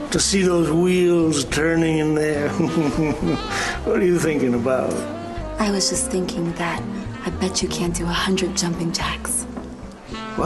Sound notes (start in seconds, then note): 2.4 laughing